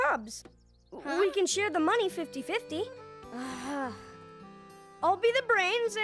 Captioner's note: groaning